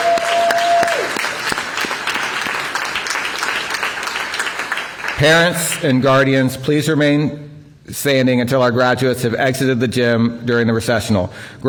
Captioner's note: applause